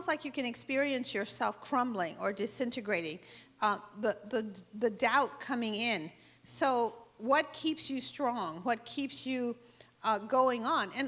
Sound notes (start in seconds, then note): none